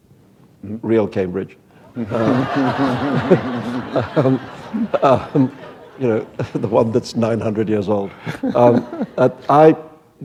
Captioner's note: laughter